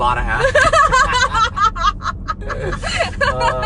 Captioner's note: laughs